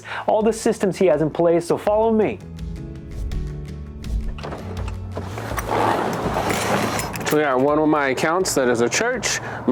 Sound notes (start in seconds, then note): 4.3 door clicks; 5.0 clothing rustles